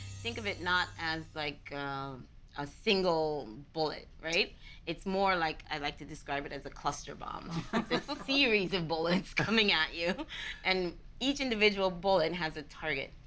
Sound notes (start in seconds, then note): 7.6 laughing